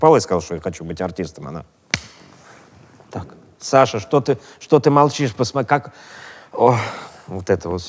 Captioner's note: slaps forehead